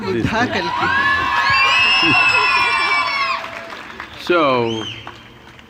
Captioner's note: cheers/Applause